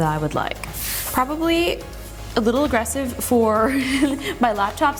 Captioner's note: giggles